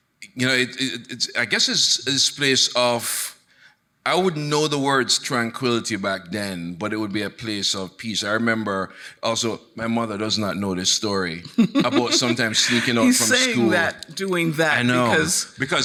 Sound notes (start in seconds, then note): 11.5 chuckles